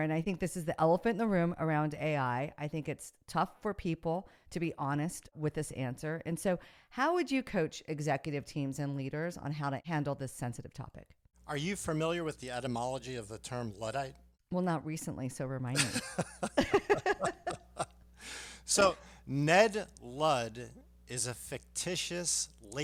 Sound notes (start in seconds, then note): 15.7 laughing